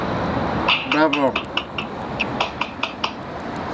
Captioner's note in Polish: klaszcze